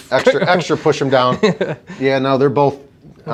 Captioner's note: laughing